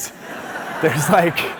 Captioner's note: audience laughing